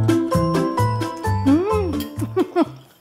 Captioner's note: laughs